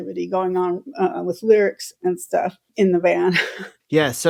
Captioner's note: laughter